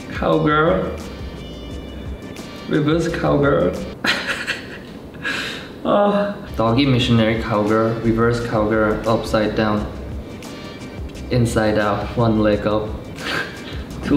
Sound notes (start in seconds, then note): 4.0 chuckles